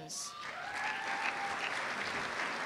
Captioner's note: applause